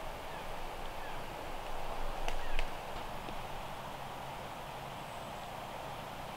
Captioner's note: birds chirping in distance